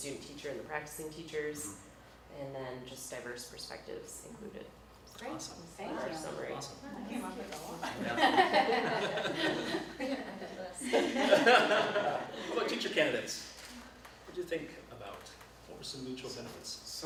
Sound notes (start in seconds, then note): 7.9 all laugh